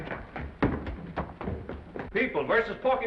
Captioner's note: footsteps receding